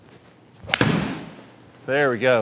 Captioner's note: golf ball hitting